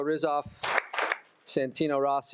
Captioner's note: attendees applauding